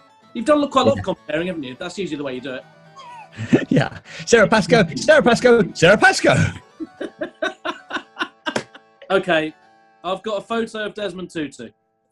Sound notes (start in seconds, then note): 3.0 sniggering; 6.9 laughing